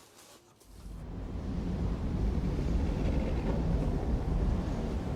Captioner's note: construction rumbling